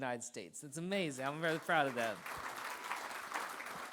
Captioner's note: applause